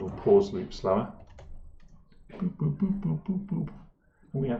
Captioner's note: boop boop boop boop boop boop